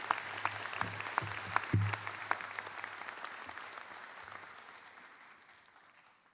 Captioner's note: applause